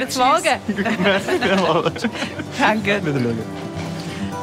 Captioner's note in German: Lachend